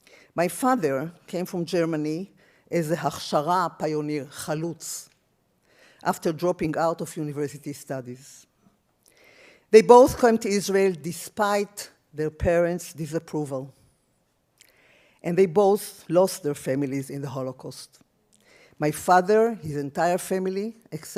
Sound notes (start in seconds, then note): 2.8 speaks in foreign language